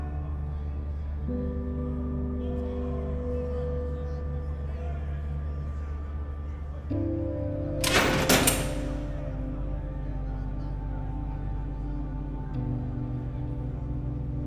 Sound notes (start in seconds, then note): 7.8 door rattling; 9.3 muffled shouting over expressive electronic music